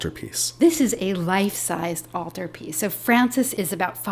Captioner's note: voiceover